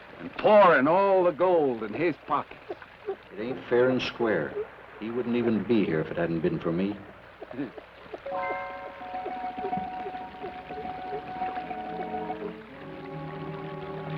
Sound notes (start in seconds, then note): 8.2 suspenseful orchestral music; 8.2 water trickles